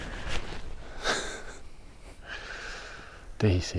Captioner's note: quietly laughs